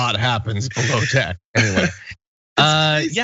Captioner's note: laugh